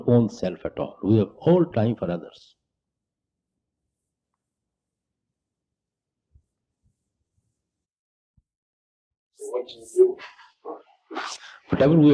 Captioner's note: laughter